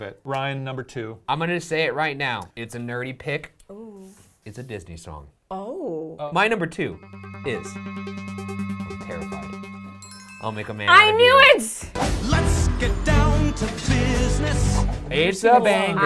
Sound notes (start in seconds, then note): 6.8 suspenseful music; 9.9 chimes dinging